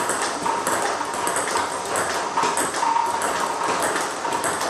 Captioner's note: ball ping pong hitting continues